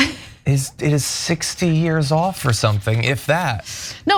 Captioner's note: laugh